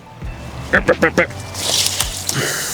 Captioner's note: musical grunts